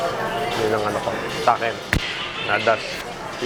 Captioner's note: speaking in foreign language